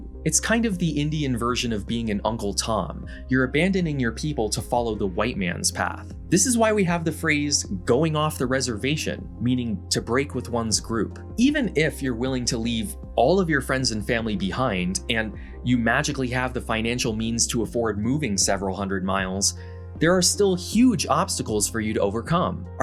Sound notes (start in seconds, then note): none